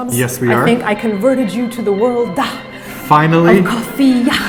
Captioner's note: american reverend voice